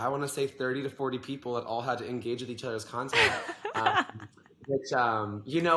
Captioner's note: laughs